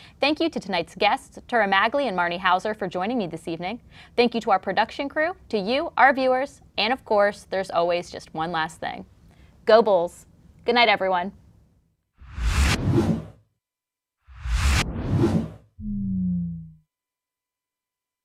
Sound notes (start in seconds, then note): 12.6 whoosh